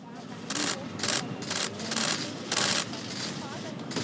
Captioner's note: cameras click